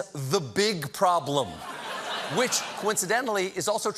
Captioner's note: laughter